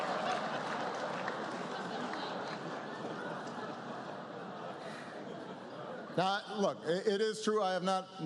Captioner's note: laughter